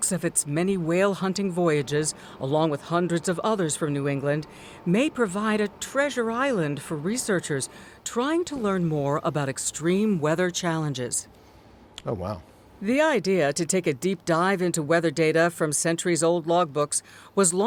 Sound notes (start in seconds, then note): 13.4 voice-over